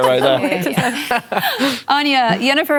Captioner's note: laughter